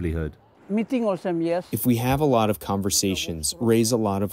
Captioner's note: through translator